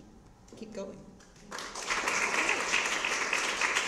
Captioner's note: applause